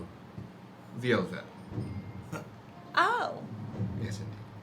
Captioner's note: chuckles